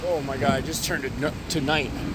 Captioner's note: flames crackling